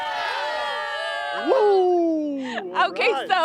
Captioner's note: cheers